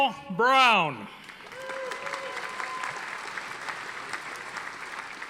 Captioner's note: audience applauding